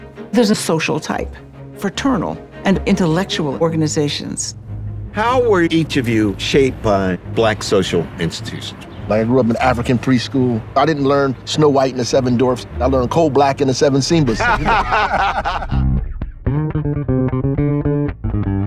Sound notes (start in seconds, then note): 14.2 laughing; 16.0 upbeat music